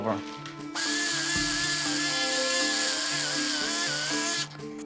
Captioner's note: drill whirs